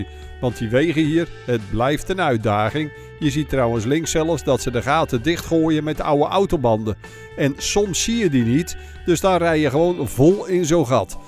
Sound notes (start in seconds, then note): 0.4 voiceover